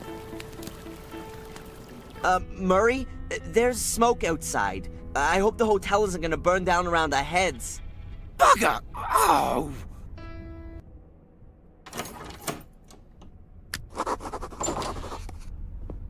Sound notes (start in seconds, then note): 11.8 unlocks door